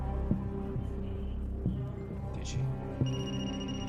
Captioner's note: phohone ringing